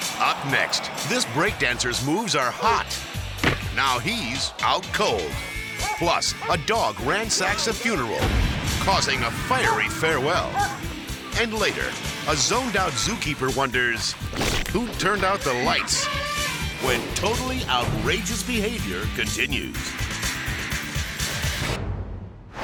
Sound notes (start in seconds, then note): 15.4 elephant trumpets; 19.8 upbeat music